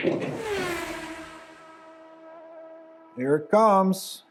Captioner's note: balls clacking; racing car speeding